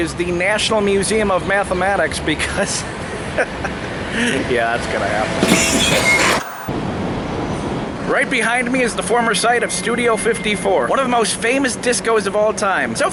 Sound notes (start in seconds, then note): 3.2 chuckling; 5.4 wheezy laughing; 5.4 white noise scratching